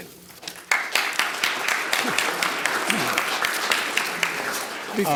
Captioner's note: audience applauding